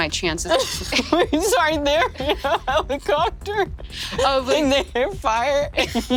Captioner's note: laughs